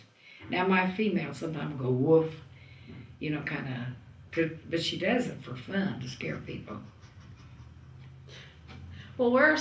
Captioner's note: laughter